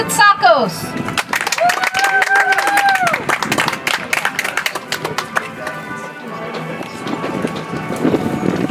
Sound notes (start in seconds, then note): 4.6 audience applauds